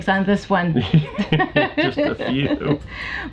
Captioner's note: laughing